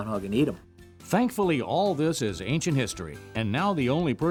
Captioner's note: voiceover